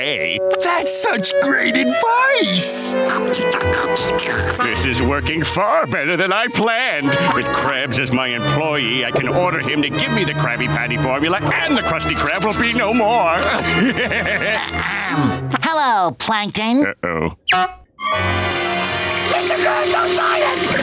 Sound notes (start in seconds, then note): 13.3 laughing